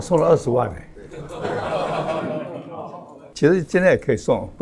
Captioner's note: laughs